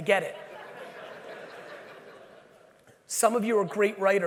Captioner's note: audience laughing